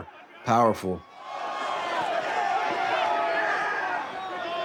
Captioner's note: crowd screams